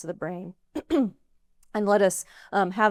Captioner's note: clears throat